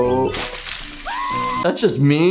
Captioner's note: Cuddles screams